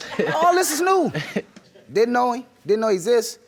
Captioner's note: laughing